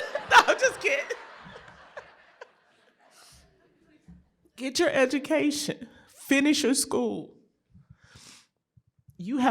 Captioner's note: laughter